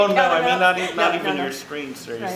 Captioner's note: laughter